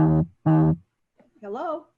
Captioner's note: vibrating